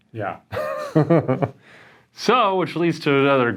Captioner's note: laughs